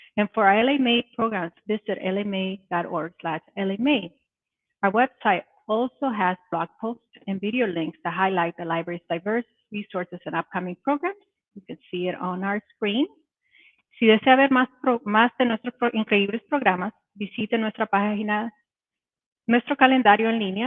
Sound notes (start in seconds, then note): 14.1 speaking Spanish